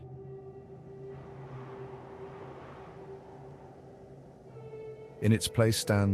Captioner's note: wind whistling